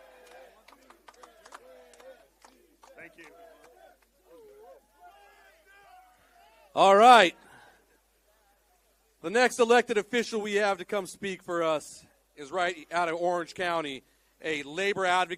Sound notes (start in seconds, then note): 1.2 speaking spanish